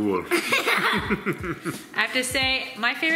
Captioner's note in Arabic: يضحك